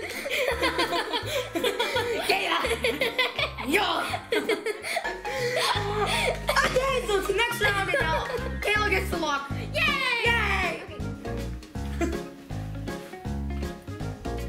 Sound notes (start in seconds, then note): 0.1 giggles; 11.6 upbeat music